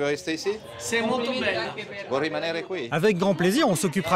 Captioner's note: in Italian